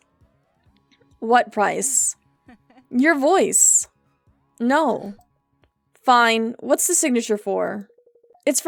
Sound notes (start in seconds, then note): 2.4 Fox Laughs